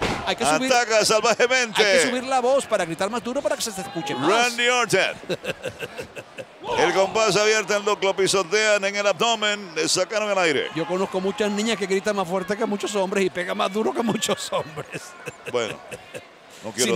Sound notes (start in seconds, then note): 5.1 laugh; 14.0 laugh